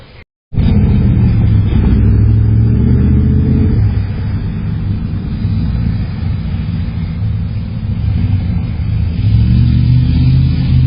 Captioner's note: Car continues to drive on Cheviot Drive